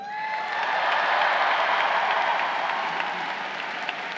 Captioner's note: crowd cheering